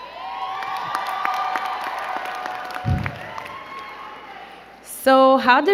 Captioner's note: crowd cheering and clapping